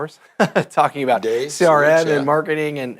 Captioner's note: laughing